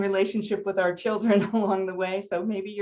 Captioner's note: chuckling